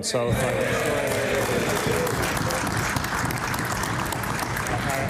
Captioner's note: applause